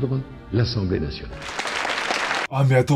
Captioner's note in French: Tout le monde applaudit